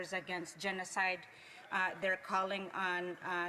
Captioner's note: speaking Alternate Language